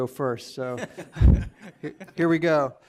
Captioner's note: laughing